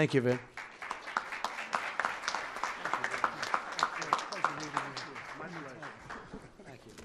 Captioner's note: applause